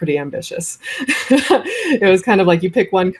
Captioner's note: laughs